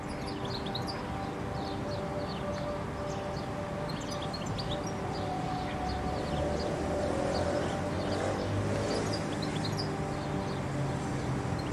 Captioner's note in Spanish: Canto de jilguero y diversos pájaros